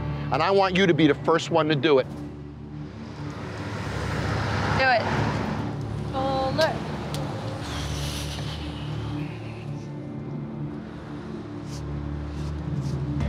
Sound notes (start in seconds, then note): 8.1 exhales; 10.5 tense music